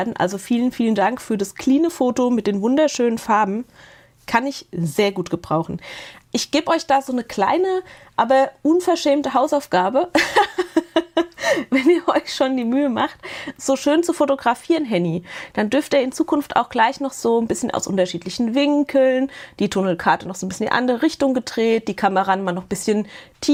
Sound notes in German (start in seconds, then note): 10.1 gelächter